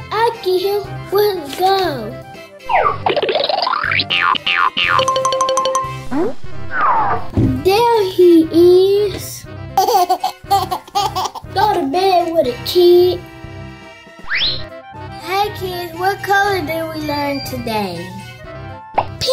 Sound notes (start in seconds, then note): 2.6 upbeat sounds; 9.8 laughter